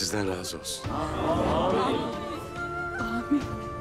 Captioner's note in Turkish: Hep bir ağızdan